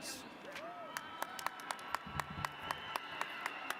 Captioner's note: applause